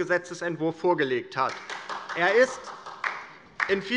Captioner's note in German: Beifall